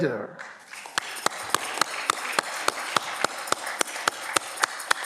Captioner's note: audience clapping